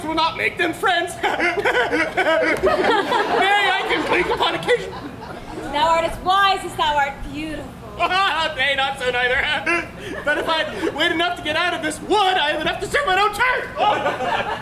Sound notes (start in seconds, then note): 1.1 laughs; 9.2 laughs